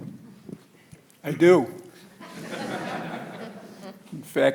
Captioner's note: audience laughing